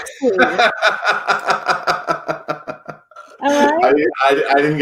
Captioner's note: laughs